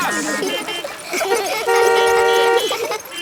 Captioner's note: laughter; beeping